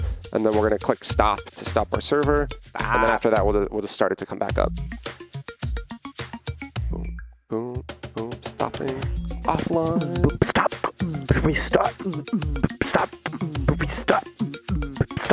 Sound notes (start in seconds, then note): 5.4 funky music; 10.9 beat boxing